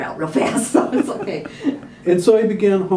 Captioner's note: laughter